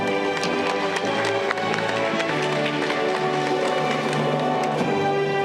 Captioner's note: audience clapping